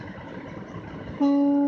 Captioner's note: honk